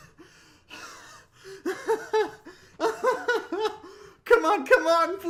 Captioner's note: laughter